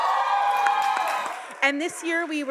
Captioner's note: audience applauding